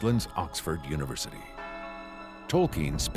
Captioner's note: bell tolls